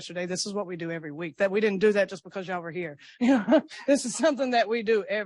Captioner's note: laughs